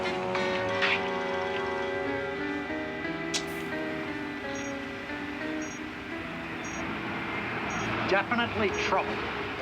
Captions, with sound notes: (beeping) - Definitely trouble.